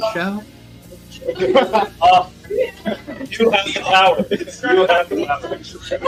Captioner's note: boo; laughing, overlapping conversations